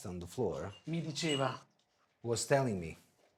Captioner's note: speaking foreign language